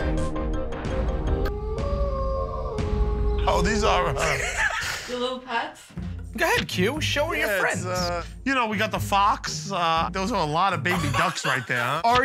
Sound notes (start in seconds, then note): 1.5 animals howling